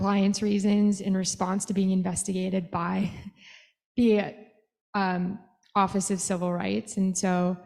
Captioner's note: laughter